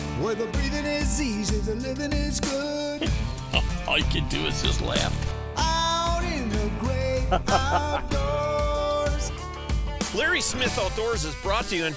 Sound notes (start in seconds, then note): 3.0 laughter